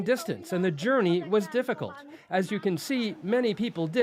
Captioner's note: speaking alternate language